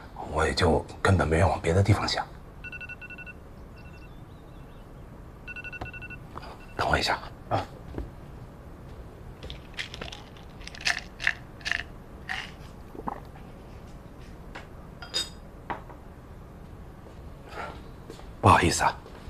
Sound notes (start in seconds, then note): 2.6 alarm